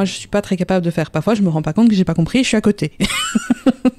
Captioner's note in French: rire